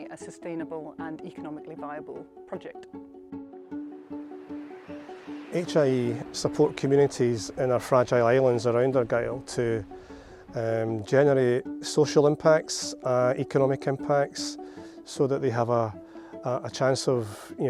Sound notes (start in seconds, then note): 3.7 wind blowing